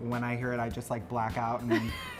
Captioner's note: laughs